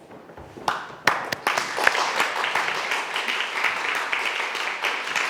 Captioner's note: audience applauds